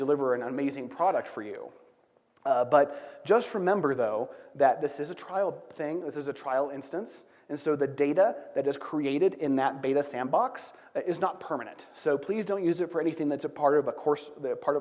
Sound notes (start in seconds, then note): none